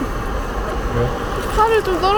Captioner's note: laughs